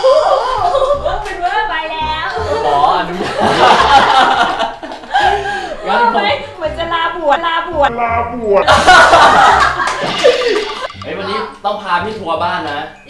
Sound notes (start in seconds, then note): 8.6 big burst of laughter hahah